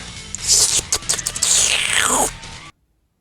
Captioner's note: slurp